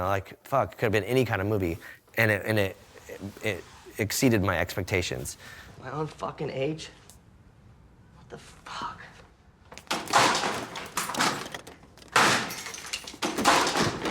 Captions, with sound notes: Like fuck, it could have been any kind of movie and it exceeded my expectations, My own fuckin' age? What the fuck? (items clattering)